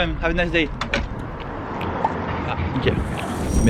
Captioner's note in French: porte qui se ferme direct